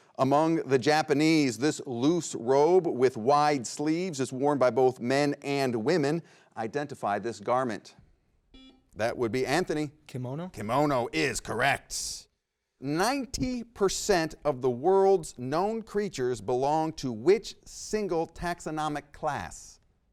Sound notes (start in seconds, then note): 8.5 buzzer rings